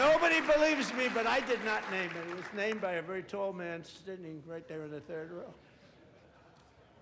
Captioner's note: applause